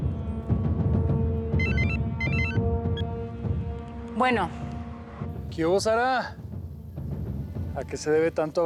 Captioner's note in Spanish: suena el celular